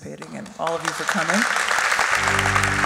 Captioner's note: applauding; gentle music